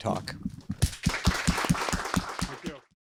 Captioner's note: audience applauds